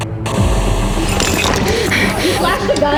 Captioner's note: camera flickering; panting